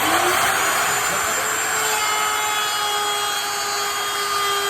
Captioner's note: router whirring